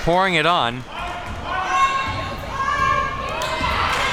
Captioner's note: crowd yelling